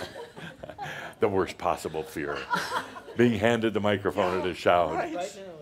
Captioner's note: a few chuckles; more chuckles